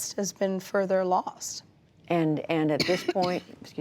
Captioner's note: coughing